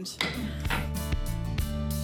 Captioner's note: gavel tapping; light music